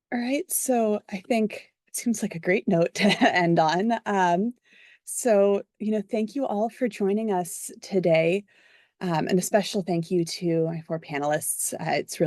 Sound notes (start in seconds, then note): 3.9 laugh